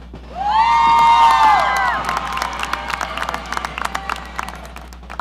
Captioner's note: audience cheering